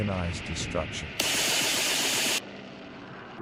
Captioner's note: machine gun fire